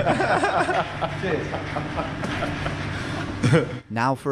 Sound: men laughing

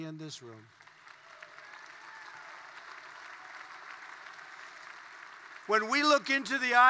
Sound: applause

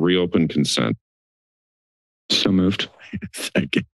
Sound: silence

